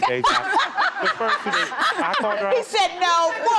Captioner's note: laughing